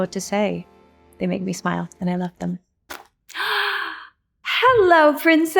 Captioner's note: gasps